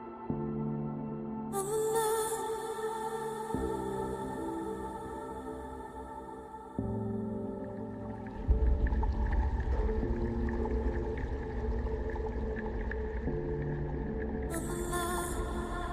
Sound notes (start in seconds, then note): 8.3 bright ethereal music; 8.3 water rumbling